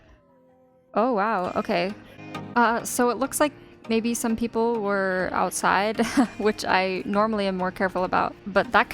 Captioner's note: nervous laughter